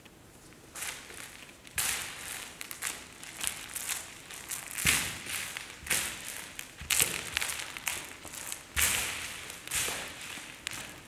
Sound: skittles rattling under dancer's knees and hands

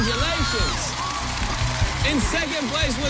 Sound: cheers and applause

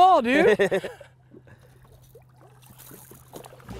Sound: laughter

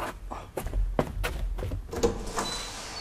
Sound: running footsteps

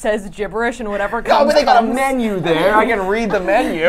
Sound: laughs

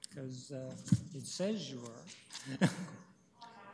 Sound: chuckles

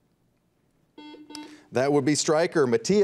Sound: buzzer beeps

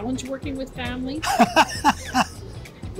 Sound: laughs

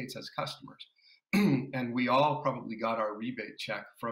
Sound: clears throat

